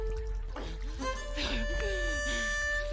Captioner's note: choking coughing; gasping